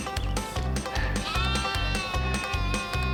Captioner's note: baaing of the lamb